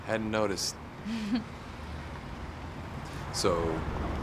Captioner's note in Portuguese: Céu ri